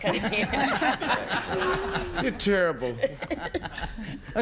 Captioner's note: laughter